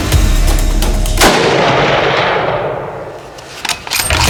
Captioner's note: gun fires